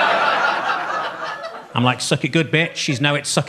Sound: audience laughing

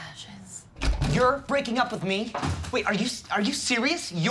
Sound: door opens

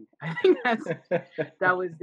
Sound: laughing

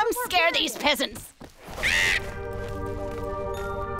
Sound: squawking

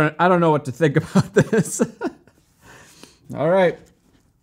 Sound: giggles

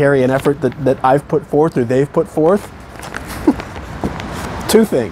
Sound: laughs

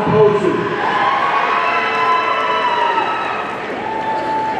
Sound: audience cheering

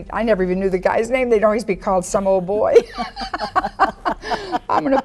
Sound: women laugh

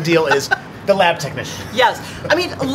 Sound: laughter

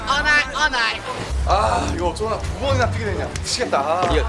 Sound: whew

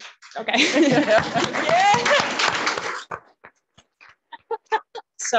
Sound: audience clapping

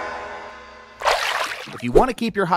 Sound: water splashes

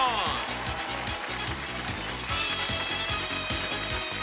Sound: cheers and applause

